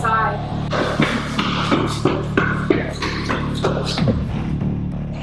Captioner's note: footsteps echoing